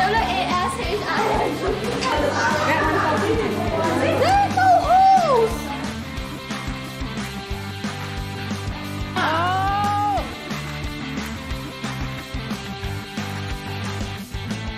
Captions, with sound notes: W-A-S-H-I-N-G There're no holes! *cheering*